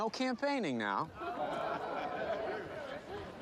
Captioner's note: crowd chuckles